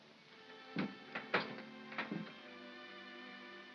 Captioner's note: door opens